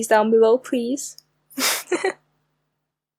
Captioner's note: giggle